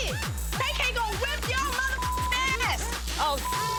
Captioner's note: beep